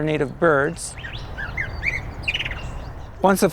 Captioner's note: birds calling